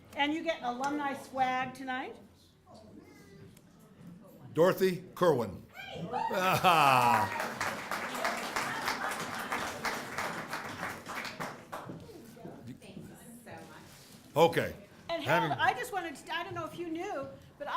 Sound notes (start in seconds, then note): 6.3 laugh; 6.3 applause